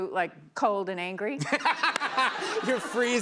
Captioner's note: laughter